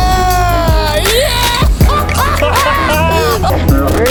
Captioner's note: laughing